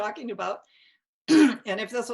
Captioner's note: clears throat